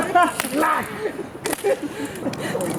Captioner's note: laughter